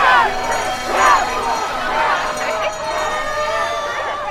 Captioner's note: crowd shouting